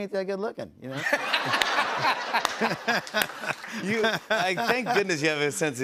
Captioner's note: laughter